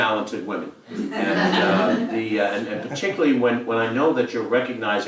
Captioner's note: laugh